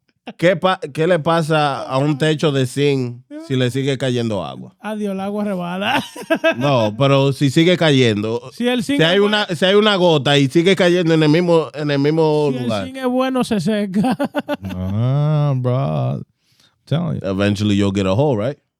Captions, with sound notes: (Speaking In Foreign Language) No, but (Speaking In Foreign Language) Eventually you'll get a hole, right?